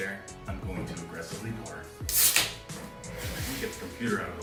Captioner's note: beer can tab cracking